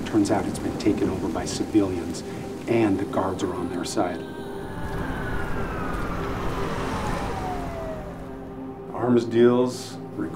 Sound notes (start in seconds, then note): 4.4 police sirens; 4.5 car engine; 5.4 footsteps